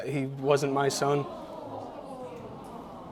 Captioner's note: audience murmurs